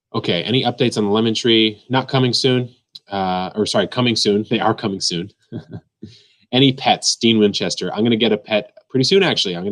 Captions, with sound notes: Okay. "Any updates on the lemon tree?" Not coming soon. Or sorry, coming soon. They are coming soon. (laughs) "Any pets?" Dean Winchester. I'm gonna get a pet pretty soon, actually.